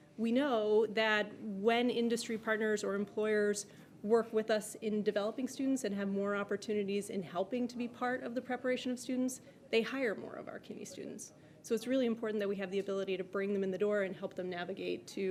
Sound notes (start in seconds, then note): none